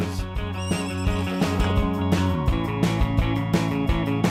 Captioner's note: horse whinnies